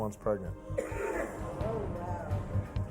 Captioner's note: crowd murmurs; worrying music